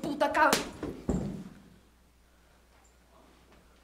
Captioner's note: thwacks